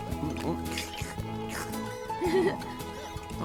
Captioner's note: slurp!